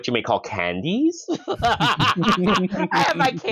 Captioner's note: laughter